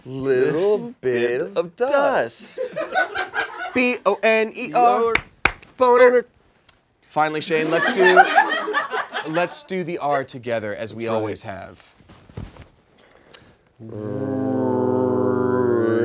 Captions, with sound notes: - Little bit of dust. - Little bit of dust. - B-O-N-E-R. (claps) - E-R. (claps) - Boner. - Boner. - Finally, Shayne- (audience laughs) Let's do the R together as we always have. - Really? - Really?